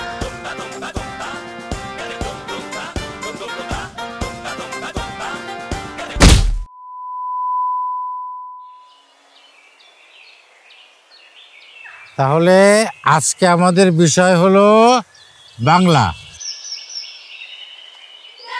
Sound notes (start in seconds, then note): 9.5 birds chirping